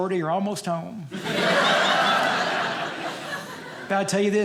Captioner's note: audience laughing